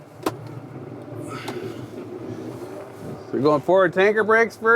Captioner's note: tractor controls clicking